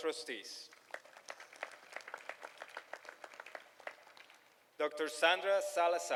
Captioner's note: applause